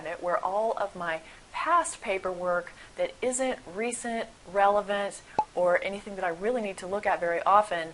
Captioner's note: pop